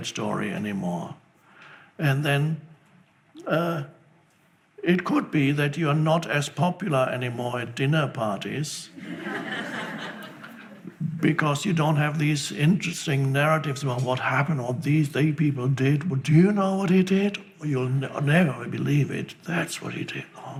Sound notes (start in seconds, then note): 10.6 laughing